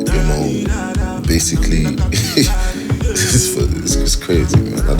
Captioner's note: laughs